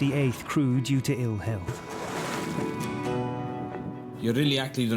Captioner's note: water splashes